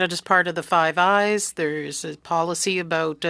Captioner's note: speaking French